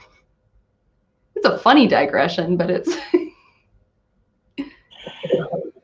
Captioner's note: laughs